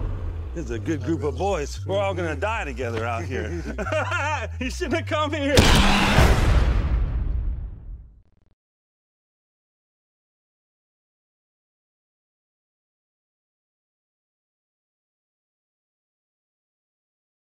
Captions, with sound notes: It's a good group of boys we're all gonna die together, out here [Laughter] You shouldn't have come here. [Skull-Crawler roar]